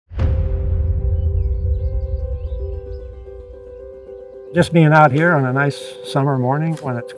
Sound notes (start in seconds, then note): 0.7 birds chirping; 2.5 gentle music